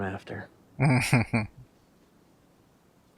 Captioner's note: chuckling